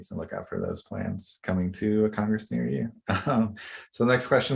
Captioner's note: laughs